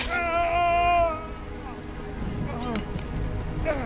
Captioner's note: man screaming; dramatic music